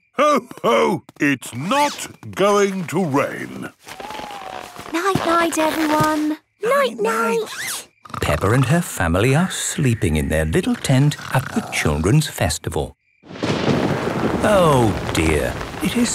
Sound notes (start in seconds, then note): 7.6 snores; 13.2 thunder rumbling